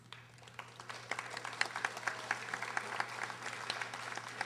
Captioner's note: audience applauding